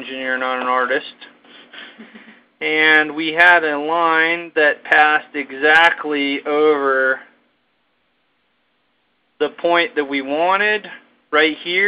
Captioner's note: chuckle